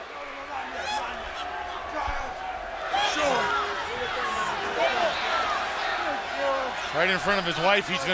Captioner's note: crowd chatter